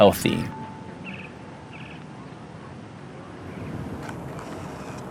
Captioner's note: birds chirping